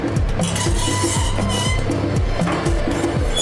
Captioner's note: door creaking